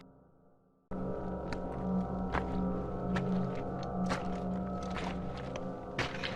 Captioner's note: suspenseful music continues; pebbles crunching